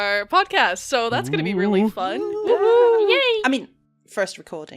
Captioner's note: excited noises from all!